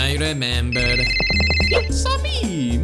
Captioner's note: phone ringing